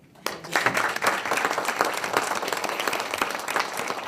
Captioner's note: people applaud